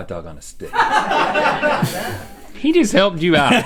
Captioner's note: laughing